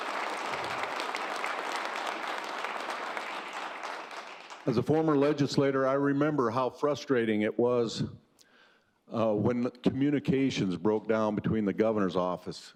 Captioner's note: applause